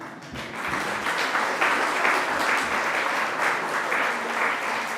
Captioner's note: audience applauding